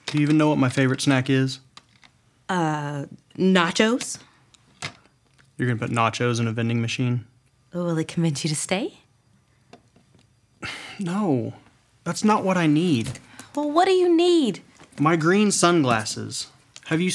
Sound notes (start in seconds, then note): 10.6 sighs